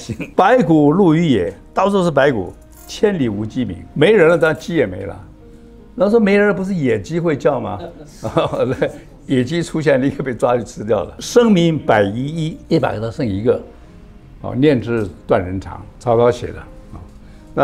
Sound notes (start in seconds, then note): 7.8 laughs